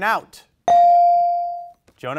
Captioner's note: bell rings